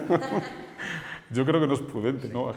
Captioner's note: they laugh